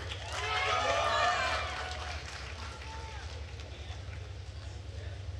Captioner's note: attendees cheering and applauding